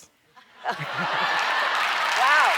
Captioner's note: cheers and applause